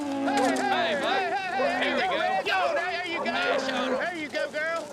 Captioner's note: shouting